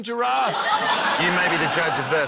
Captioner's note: laughter